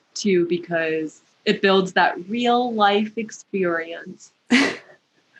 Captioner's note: laughter